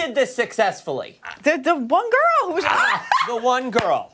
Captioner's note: laughter